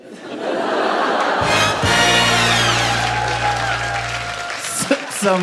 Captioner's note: laughter, applause, first minute win